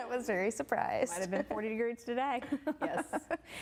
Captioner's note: laughing